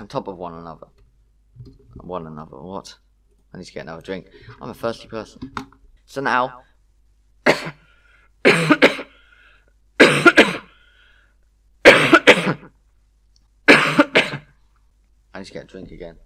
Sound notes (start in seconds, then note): 9.6 coughs heavily